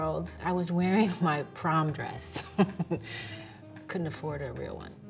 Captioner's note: chuckles